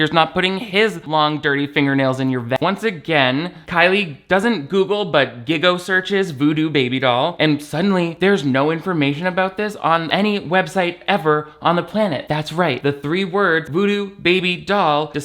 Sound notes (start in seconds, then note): none